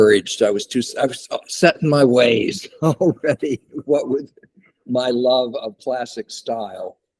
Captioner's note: laughs